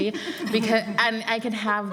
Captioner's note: laughter